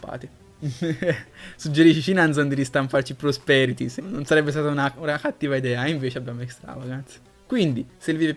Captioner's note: chuckles